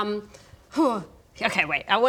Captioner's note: hrgh